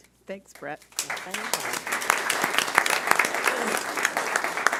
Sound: all applauding

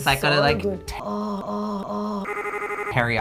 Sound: moans

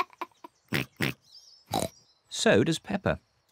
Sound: giggles and oinks; oinks

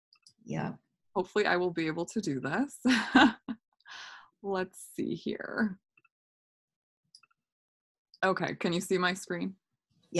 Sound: laughter

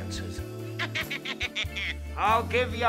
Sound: rabbit toy laughter

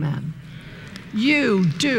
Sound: murmuring

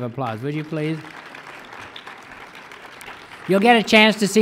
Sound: audience claps

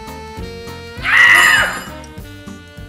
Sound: screams

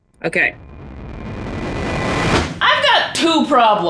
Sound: suspenseful static

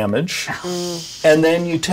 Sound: sympathetic hissing

